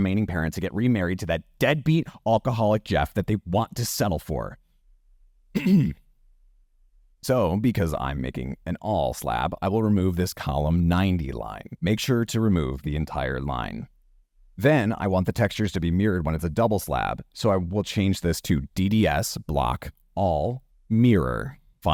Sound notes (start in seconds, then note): 5.5 clears throat